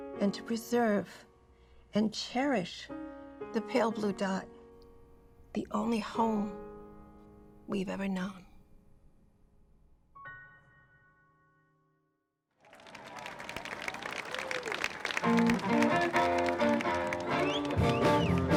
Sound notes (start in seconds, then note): 12.6 people applauding; 15.3 upbeat rock music